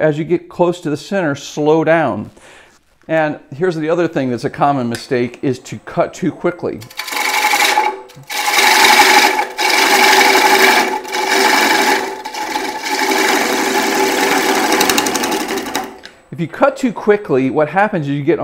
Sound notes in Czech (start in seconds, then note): 9.4 Zvuk soustružení